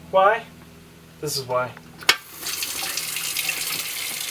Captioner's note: water runs